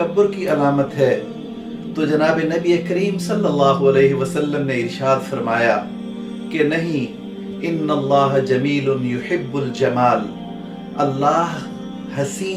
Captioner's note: Arabic